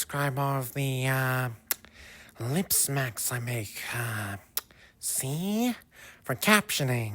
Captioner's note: lip smack